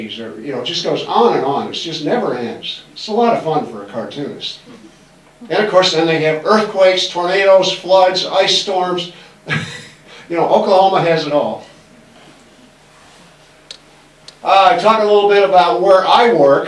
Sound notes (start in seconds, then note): 9.5 laughs